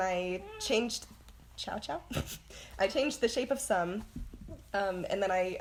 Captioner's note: meow